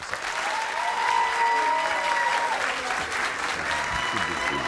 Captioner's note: crowd cheering